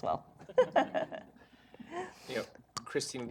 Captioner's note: laughter